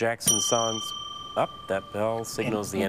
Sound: bell dings

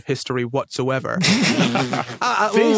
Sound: stifles laugh

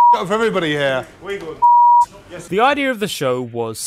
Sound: beep

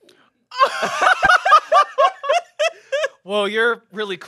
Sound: everyone laughs

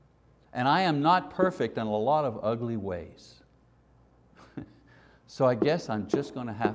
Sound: chuckles

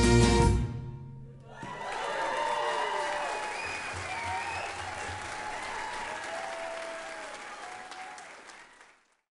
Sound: applause

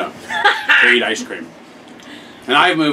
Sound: laughs

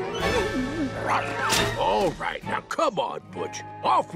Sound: whining

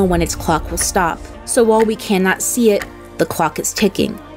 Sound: clock ticking

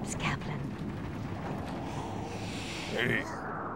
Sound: thunder, wind blowing

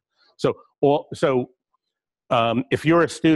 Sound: pause

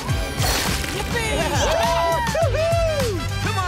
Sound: cheering

